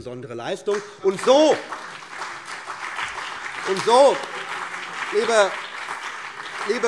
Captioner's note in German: Beifall BÜNDNIS 90/DIE GRÜNEN und vereinzelt CDU